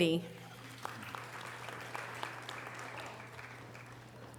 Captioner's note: audience applause